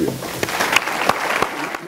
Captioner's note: audience applauds